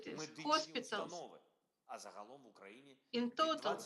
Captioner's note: Volodymyr speaking foreign language